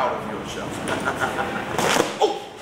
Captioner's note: laugh